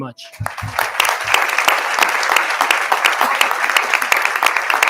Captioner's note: everyone applauding